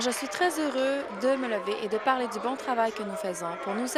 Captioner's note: applause